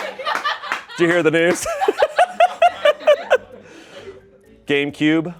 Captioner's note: laughs